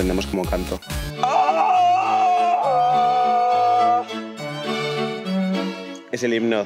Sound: yelling

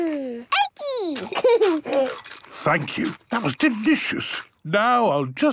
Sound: laughing, crunching

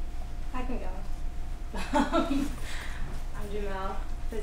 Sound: laughs

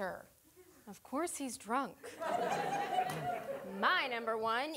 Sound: audience laughing

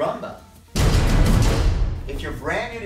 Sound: dramatic sounds

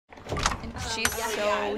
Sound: door clacks open; girls chattering

